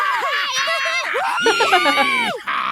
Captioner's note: chuckles